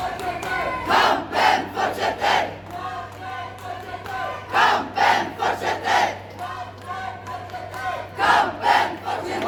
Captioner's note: crowd shouting: "Kampen fortsetter! Kampen fortsetter!"